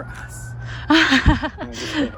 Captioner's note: laughs